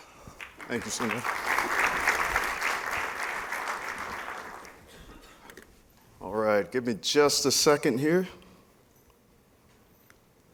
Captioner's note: applause